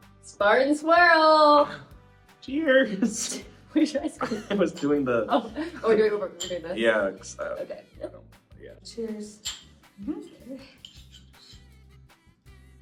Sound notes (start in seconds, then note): 4.1 chuckles; 4.6 bowls clinking; 9.4 bowls clinking